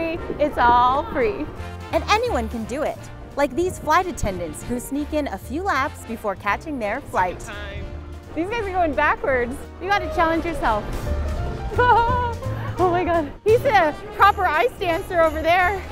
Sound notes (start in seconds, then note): 11.6 laughs